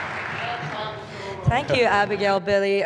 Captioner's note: applause